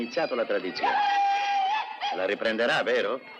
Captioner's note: whooping